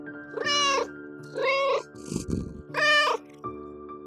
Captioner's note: meow